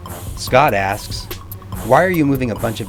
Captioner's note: voiceover